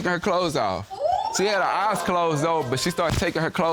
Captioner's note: audience exclaim